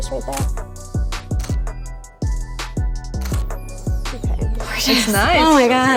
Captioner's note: camera shutter clicking